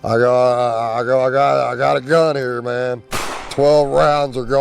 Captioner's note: gun bangs